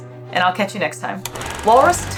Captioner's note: film rolling sound effect